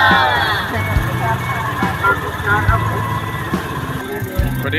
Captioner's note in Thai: ปรบมือ